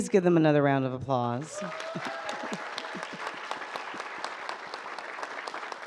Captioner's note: audience applauds and cheers